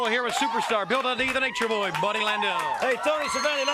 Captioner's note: crowd cheering